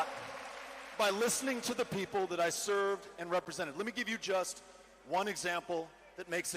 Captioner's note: cheering